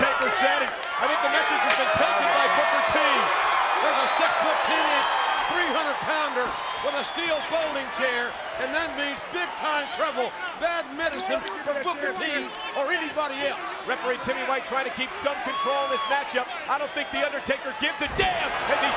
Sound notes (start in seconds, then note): 0.2 overlapping chatter; 1.8 crowd cheering; 3.3 presenter speaking faintly off mic